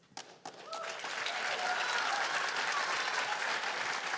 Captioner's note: cheers and applause